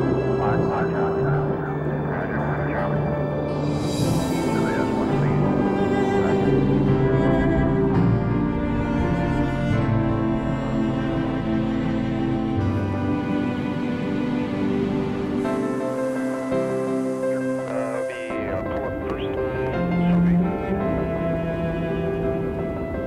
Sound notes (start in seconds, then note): 0.0 jet engines; 13.0 wind